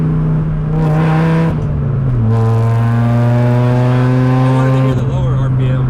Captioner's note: engine drowns out speaker